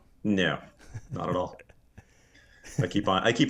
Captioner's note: laughing softly